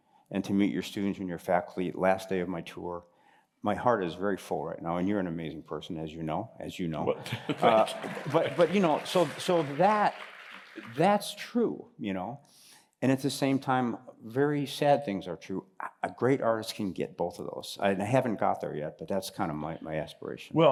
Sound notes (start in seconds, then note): 7.3 applause